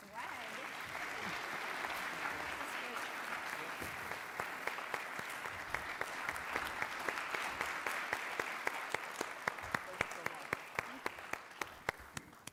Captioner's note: applause